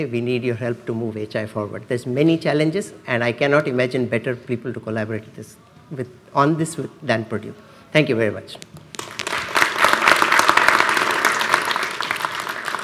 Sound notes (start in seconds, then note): 9.0 audience applause